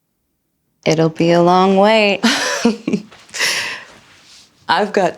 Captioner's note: Mattie laughs